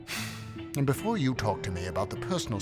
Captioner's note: sighs